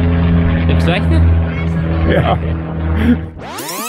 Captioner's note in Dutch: lachend